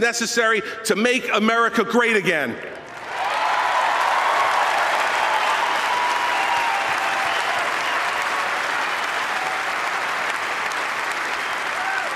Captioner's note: applause